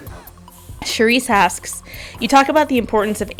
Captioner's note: voiceover